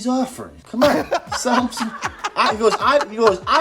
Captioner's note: laughing